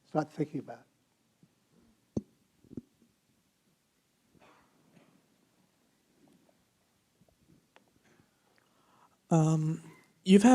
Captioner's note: silence